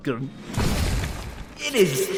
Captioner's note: outro thud